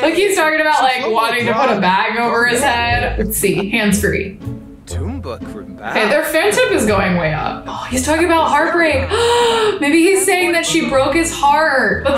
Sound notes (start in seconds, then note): 9.0 gasps